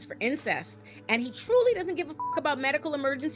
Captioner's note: beep